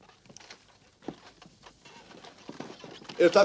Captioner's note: clip-clop